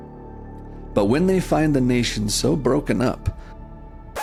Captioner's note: record scratch, music cuts off